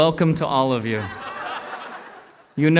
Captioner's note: laughter